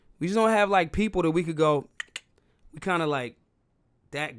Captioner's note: clicking